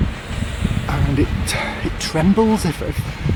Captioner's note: train passes